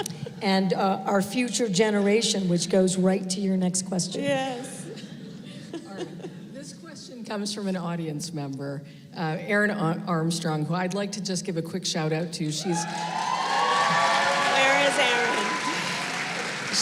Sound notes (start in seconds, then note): 12.6 applause